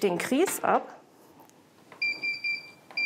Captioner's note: beeps